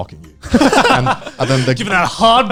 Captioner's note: guys laughing